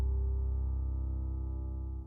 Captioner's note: none